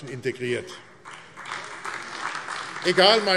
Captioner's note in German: Beifall AfD